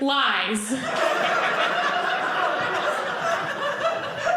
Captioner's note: audience laughing